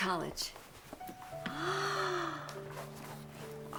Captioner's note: gasps